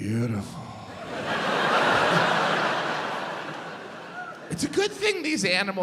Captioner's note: audience laughs